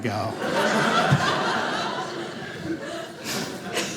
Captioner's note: audience laughing